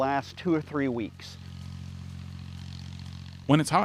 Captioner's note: sprinklers buzzing